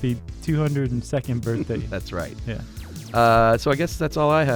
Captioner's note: laughs